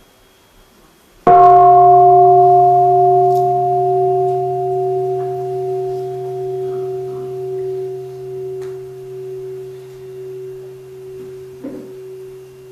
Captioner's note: gong